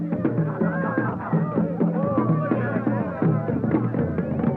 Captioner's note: crowd cheers